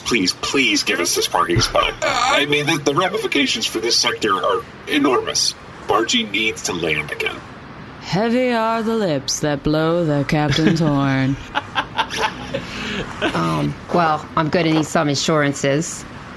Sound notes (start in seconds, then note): 7.0 intoning dramatically; 11.2 laughter